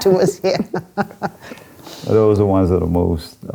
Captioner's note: laughing